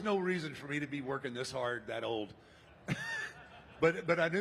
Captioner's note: laughs